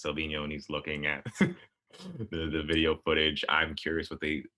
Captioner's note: laughs